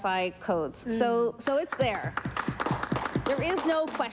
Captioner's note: applause